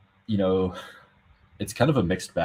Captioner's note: sighs